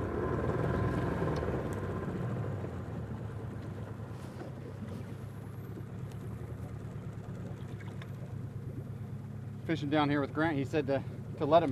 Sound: boat engine revving

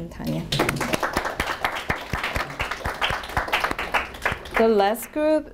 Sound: audience applauding

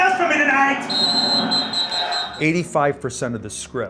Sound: whistle, crowd noise

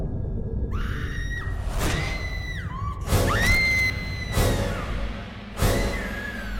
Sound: screaming sound

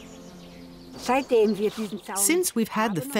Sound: speaking in foreign language

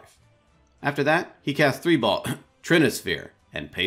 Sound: coughs

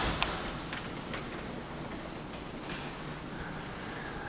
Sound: garage door closing

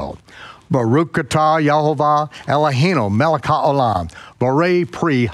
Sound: speaking in foreign language

